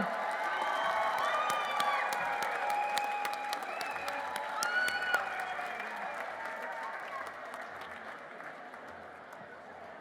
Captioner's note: applause